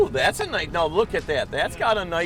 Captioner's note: voiceover